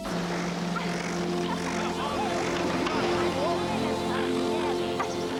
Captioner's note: people chattering